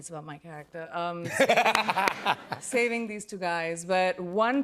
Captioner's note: laughter